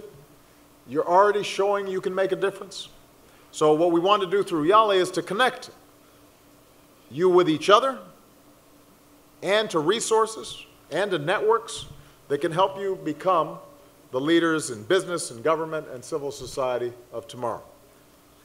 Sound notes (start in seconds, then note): none